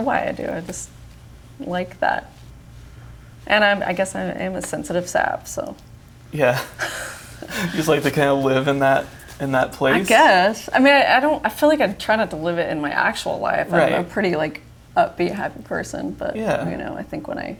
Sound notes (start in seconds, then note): 6.4 both chuckle